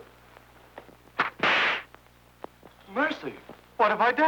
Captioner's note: whip cracking